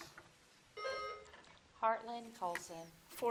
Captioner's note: buzzer dings